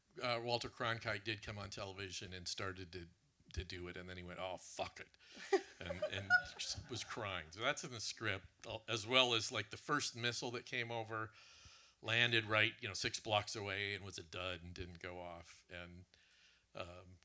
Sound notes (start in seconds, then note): 5.4 laughs